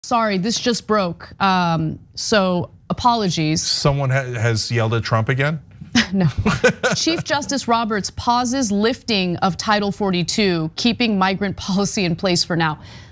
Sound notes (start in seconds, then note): 6.0 laugh